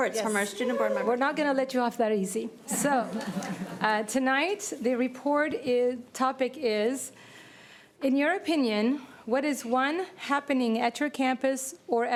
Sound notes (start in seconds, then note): 3.0 laughter